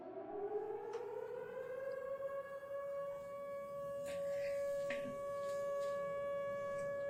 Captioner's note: air raid sirens